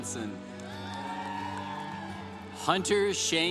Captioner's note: congregation applauding